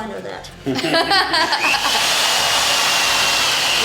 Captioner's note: laughter